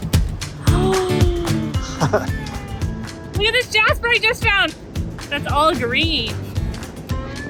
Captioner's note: gasp